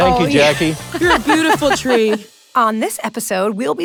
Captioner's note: laughs